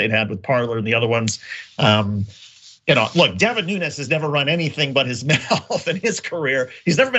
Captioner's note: laugh